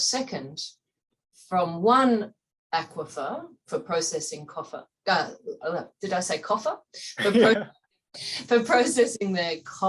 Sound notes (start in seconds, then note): 7.2 laughs